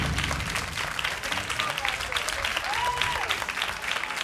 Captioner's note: crowd clapping